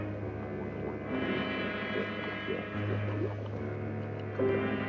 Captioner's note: bubbling